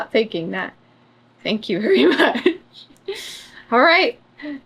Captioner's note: laughs